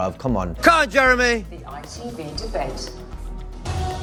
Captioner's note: shouts to screen in quiet room full of journalists